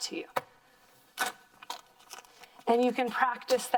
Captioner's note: plastic rustling